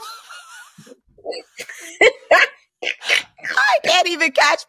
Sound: laughter

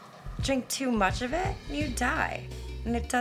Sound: none

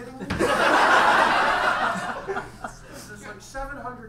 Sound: audience laughs

